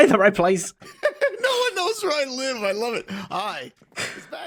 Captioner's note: laughs